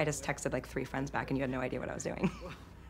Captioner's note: chuckles